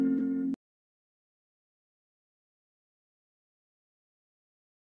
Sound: silence

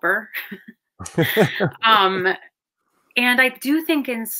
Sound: both chuckle

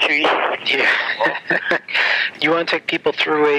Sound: chuckles

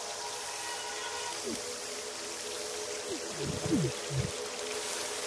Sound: eerie music; water trickling

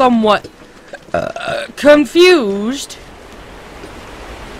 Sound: burp

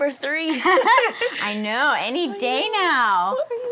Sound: laughs

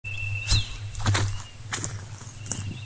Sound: footsteps

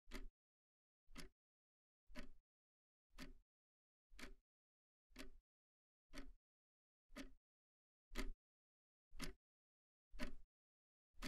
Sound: ticking clock

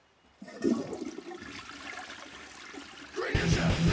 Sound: flushing sound

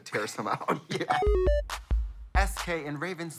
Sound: chortles

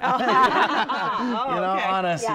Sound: laughter

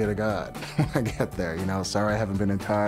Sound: laughs

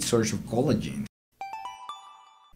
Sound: chime

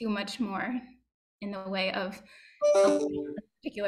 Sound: message tone playing

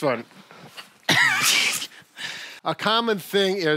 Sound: laughing

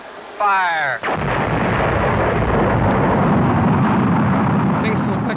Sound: rocket engine firing

